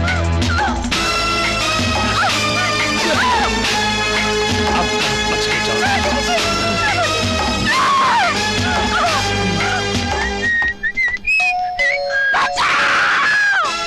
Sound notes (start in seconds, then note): 10.1 whistling; 11.4 door Bell